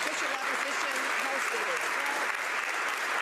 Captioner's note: some Applause